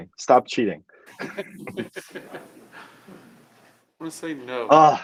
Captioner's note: laughter